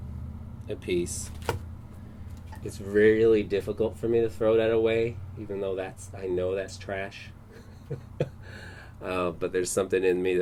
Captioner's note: laughing